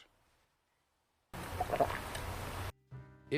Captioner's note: gulping liquid sound